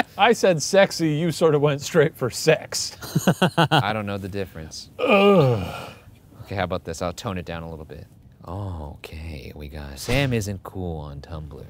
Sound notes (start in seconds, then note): 3.0 laughing; 5.0 grunting